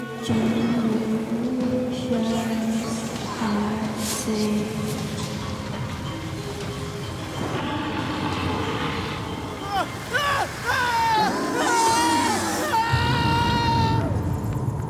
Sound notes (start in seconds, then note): 7.4 distant growling; 9.7 desperate screams; 12.7 screams fade